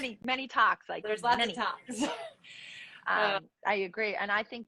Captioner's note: laughs